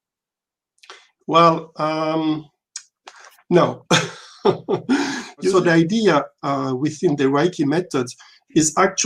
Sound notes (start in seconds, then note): 3.8 chuckle